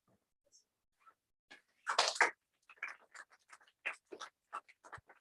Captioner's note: applause